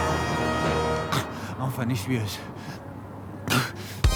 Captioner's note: panting